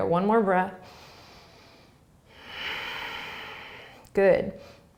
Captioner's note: inhaling and exhaling